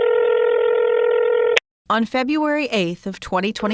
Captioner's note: phone ringing